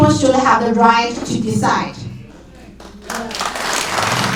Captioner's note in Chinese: 掌声